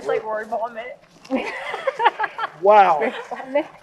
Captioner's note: laughs